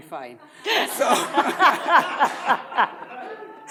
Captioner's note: all laughs